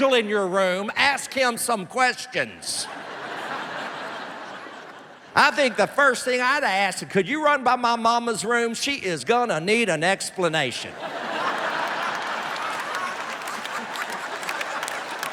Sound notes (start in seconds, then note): 10.9 laughter